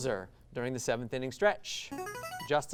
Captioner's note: ring-in sound